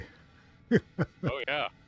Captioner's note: laughter